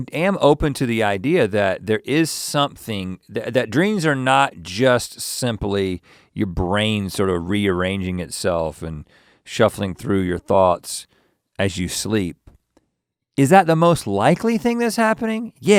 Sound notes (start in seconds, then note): none